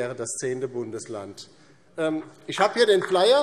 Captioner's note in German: Beifall DIE LINKE